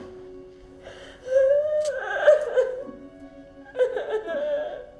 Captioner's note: Kima crying